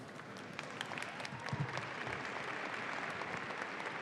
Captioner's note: audience applauds